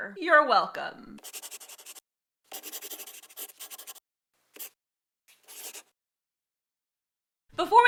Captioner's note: the sound of a pen scratching. LOGO